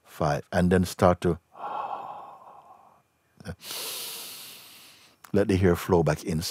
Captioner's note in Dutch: ontspant en ademt langzaam in